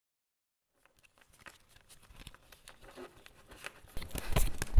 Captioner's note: cards shuffling